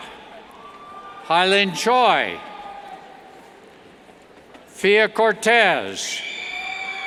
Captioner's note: cheers